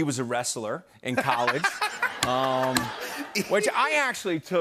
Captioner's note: laughter